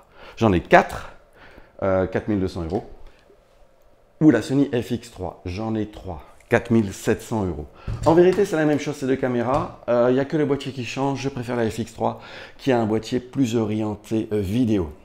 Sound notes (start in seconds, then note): none